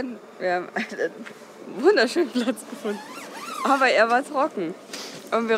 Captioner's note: laughs